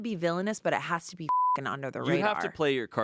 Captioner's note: beep